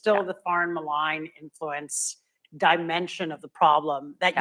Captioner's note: none